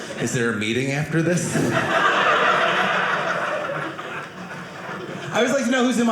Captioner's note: audience laughing